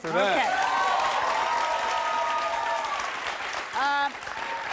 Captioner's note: audience applauds